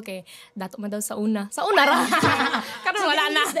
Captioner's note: both laugh